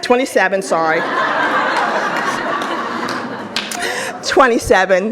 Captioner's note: audience applauds